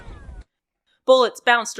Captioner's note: bullets richocheting and more gunfire